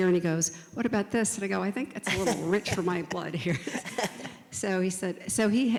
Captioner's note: laughs